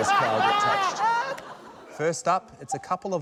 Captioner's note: laughter